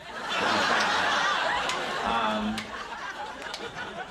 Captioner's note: audience laughing